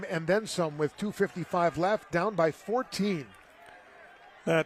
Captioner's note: applause